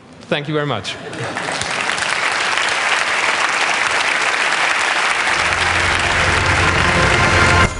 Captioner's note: applause